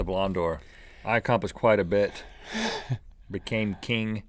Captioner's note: laughing